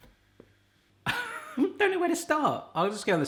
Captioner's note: laughing